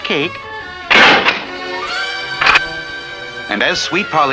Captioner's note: door Closes & then locks